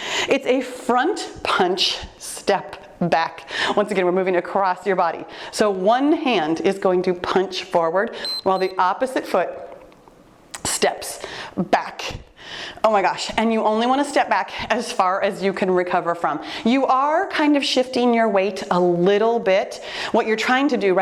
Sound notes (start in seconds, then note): 8.2 timer beeps